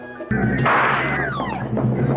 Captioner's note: gunshot bangs; dark orchestral music; townspeople chattering